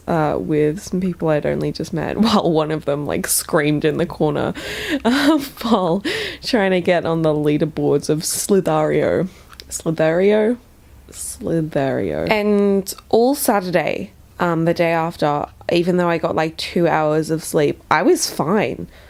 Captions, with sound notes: um, with some people I'd only just met while one of them like screamed in the corner *laughs* while trying to get on the leaderboards of Slithar.io. Slither.io? Slither.io. And all Saturday, the day after, even though I got like two hours of sleep, I was fine.